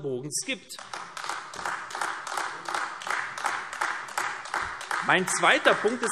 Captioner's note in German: Beifall AfD